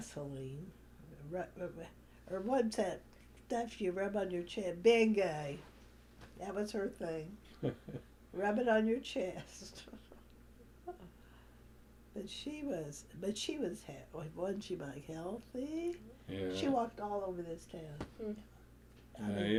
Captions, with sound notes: Vaseline, or what’s that stuff you rub on your chest—Bengay. That was her thing. (Laughter) Rub it on your chest. (Laughs) But she was—wasn’t she, Mike? Healthy. Yes. She walked all over this town.